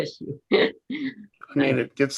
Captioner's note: laughing